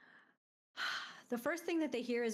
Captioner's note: sighs